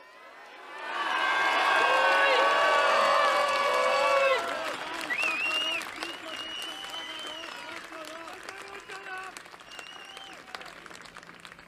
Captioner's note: whistling